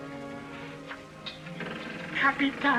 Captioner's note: door creaks